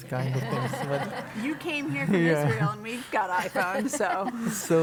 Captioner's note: laugh